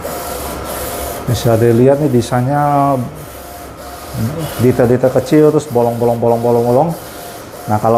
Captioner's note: printer machine noise